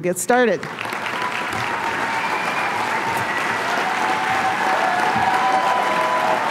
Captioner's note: applause